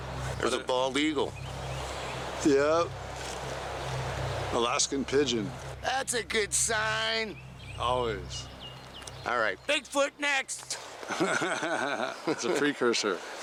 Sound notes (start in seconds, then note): 11.0 laughs